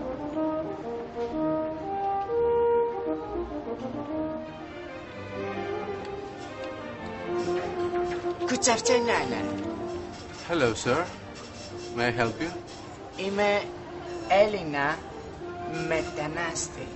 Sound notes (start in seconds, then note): 8.2 weird american accent; 13.0 greek-american accent